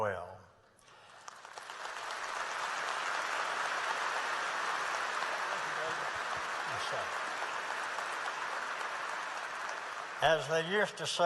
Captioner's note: applause